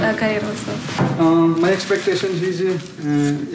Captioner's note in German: englisch